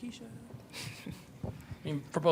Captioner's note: chuckles quietly